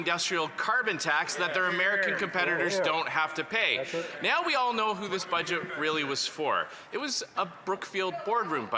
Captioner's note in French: voix de l'interprète